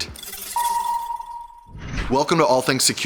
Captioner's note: chimes